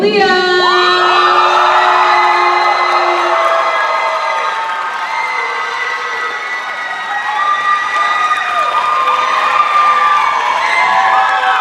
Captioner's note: cheers and applause